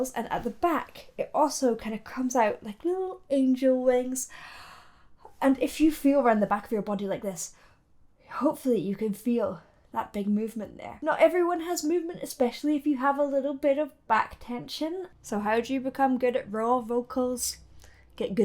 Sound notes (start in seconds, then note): 4.3 gasps